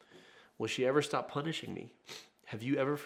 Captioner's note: sniffs